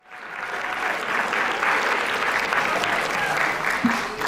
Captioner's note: audience clapping